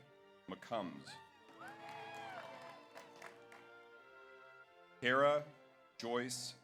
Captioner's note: audience applauds; audience cheers